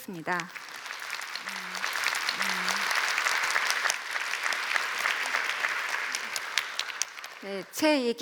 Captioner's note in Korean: 박수